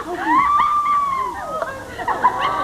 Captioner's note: laughing